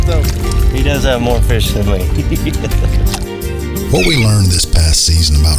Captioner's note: laughs